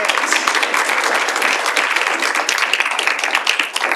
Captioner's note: audience applauds